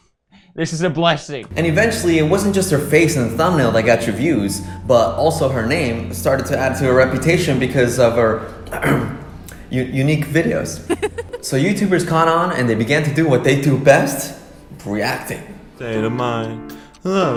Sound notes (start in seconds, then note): 8.7 clears throat; 10.8 laughing